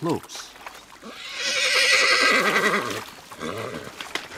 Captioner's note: horse whinnies